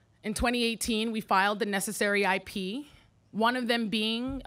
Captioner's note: none